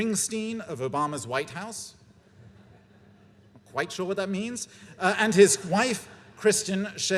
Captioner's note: laughter